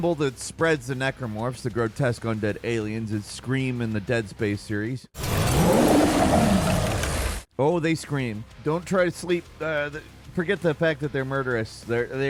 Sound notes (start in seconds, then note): 5.2 Necromorph screaming